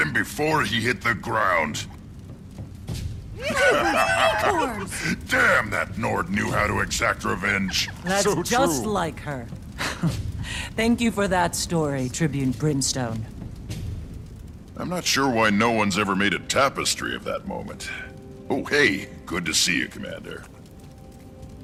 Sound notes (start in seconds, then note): 2.8 laughs; 9.7 laugh